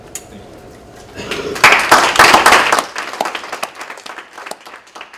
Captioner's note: applause